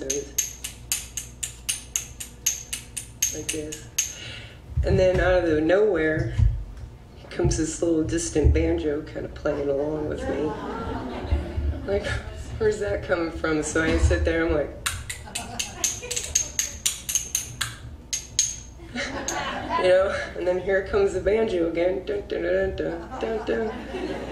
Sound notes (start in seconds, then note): 0.0 spoons clanking; 9.5 audience laughs; 15.3 spoons clanking; 18.8 audience laughs